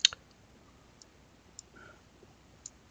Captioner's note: clicks tongue; mouse clicking